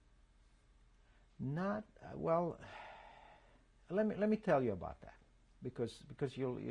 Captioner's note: sighs